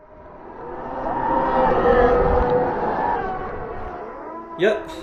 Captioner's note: screams of damned whale souls